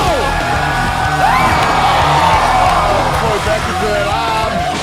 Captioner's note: crowd Cheering